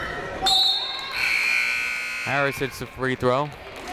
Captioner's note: buzzer